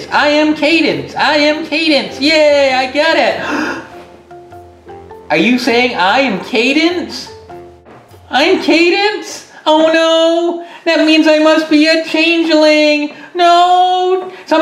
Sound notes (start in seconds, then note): 3.4 gasps